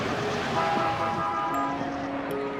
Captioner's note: vehicle horn honking; ethereal music